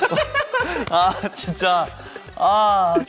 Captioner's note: smack